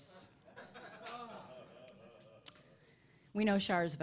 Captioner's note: laughing